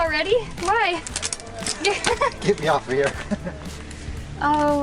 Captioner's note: laughter